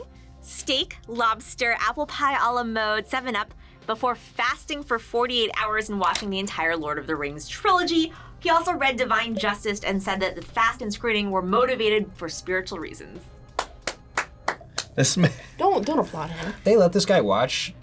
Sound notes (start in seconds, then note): 13.5 claps